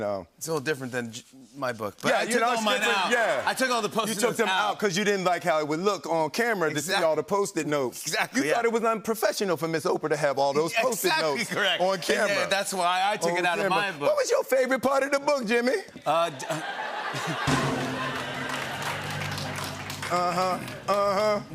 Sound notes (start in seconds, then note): 16.3 laughter; 17.1 drum roll